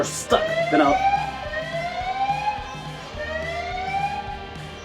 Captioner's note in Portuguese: Ambulancia